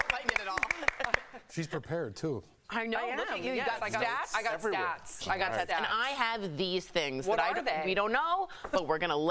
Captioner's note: applause